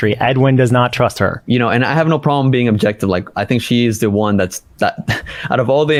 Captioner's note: laughs